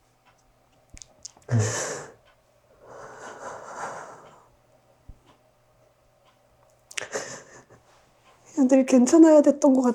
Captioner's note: sobbing